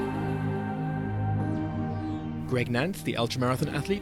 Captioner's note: voiceover